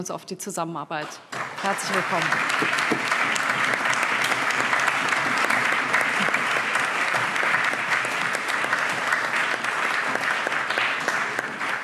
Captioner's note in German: Allgemeiner Beifall